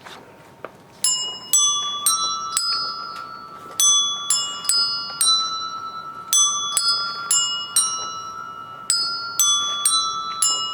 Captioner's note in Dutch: bellen klinken